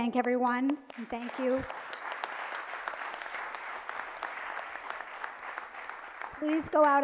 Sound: audience applauds

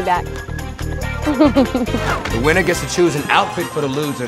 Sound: laugh

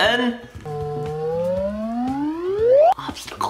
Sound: whirring

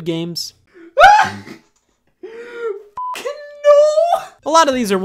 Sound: laughs hysterically

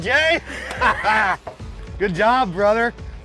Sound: laugh

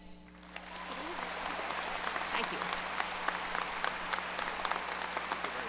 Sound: audience cheers and applause

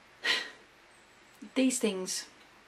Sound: frustrated sigh

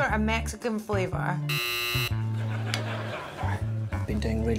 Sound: buzzer rings

